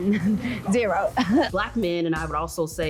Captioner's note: chuckles